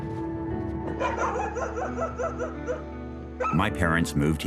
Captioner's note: dog barking